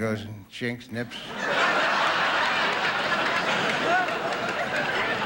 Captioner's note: audience laughing